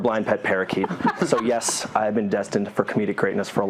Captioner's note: laugh